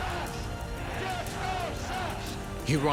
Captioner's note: crowd